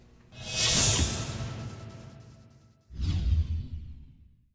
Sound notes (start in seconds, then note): 3.0 whoosh